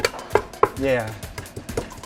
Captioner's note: sound of mortar and pestle